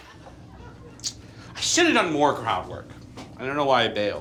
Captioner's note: audience laughs; tongue clicks